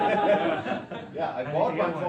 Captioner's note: students laughing